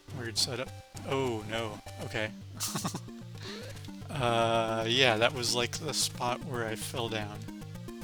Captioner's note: laughs